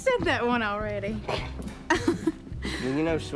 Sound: laughs

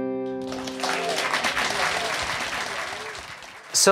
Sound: applause

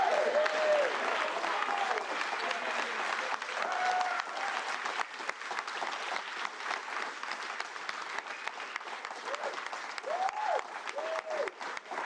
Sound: cheers and Applause

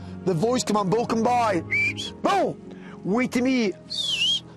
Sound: whistles

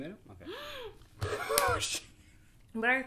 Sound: gasps; laughs

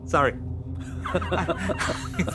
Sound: laughing

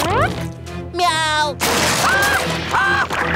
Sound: screams

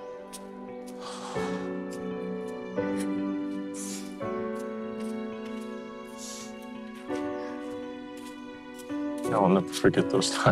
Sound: sighs

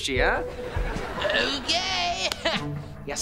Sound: chuckles

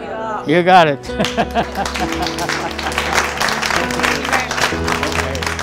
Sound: applause

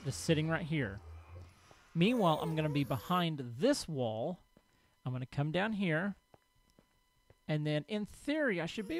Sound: ghast squalls

